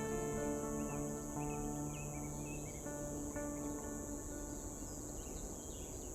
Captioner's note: birds chirping